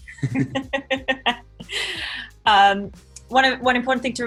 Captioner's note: woman laughing